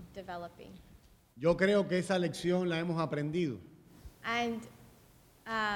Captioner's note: speaking in Spanish